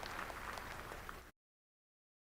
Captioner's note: applause